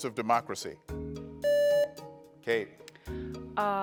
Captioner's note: buzzer beeps